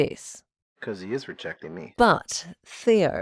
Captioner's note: quietly